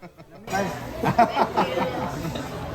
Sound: laughing

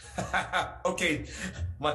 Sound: chuckles

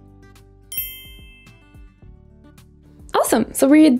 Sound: bell chimes

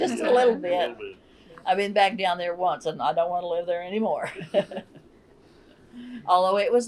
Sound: laughter

